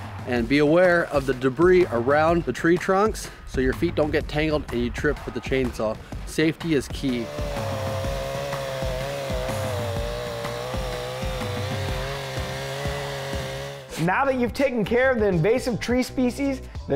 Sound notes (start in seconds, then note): 7.0 chainsaw buzzing; 9.1 industrious music